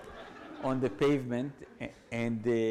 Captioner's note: audience laughs